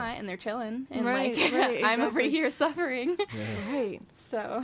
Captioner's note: laughs